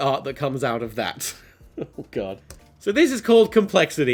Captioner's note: chuckle